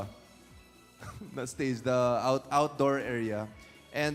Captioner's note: chuckles